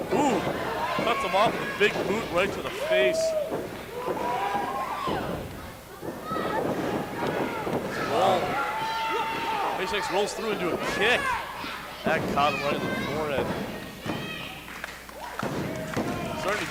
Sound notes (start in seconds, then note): 4.1 crowd yells; 13.4 thumps the floor